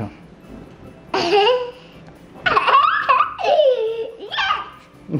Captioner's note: laughing